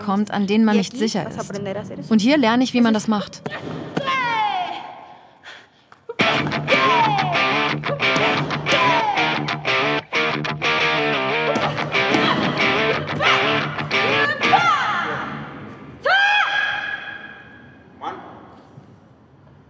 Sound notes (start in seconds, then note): 15.7 short loud scream